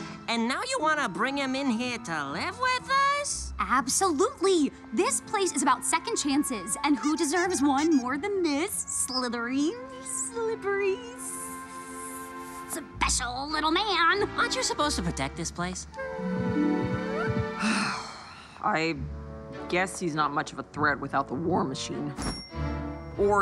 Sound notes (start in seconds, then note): 16.2 heart beating; 17.2 Vaggie sighs